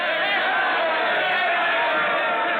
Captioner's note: cheering